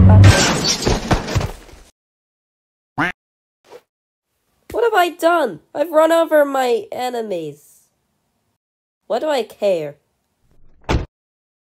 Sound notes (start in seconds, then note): 0.1 crash!; 3.0 quack